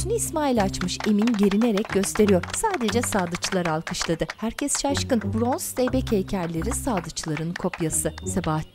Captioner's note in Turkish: Alkış sesleri